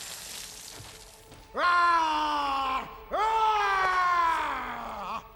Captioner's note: roars